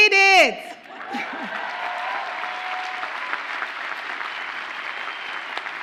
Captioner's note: audience cheers and applauds